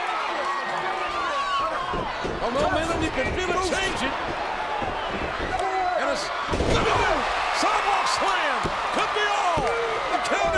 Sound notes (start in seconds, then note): 7.0 audience cheers